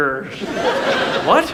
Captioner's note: audience laughs